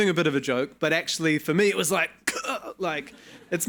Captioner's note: gagging; audience laughing